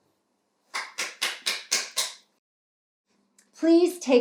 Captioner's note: applauds